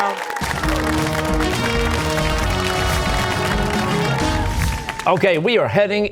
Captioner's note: cheers and applause